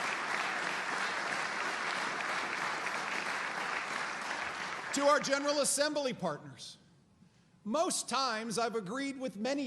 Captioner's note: applause